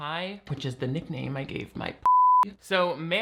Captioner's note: beep